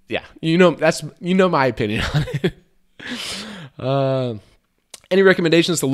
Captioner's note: laughs